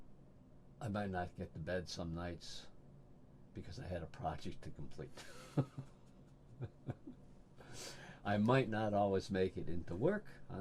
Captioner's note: laughs